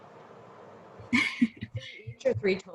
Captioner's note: laughs